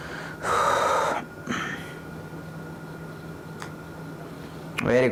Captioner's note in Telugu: నిట్టూర్పులు; గొంతు సవరించుకోవడం